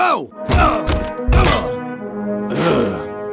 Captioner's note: grunts